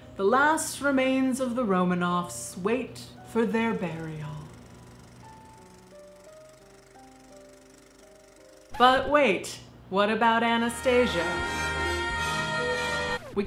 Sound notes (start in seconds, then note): 4.2 projector clicking; 10.8 exuberant singing